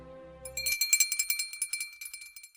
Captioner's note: bell ringing